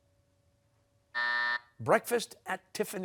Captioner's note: buzzer